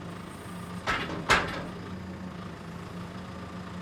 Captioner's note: metal clanging; engine running calmly